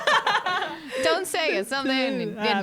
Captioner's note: laughing together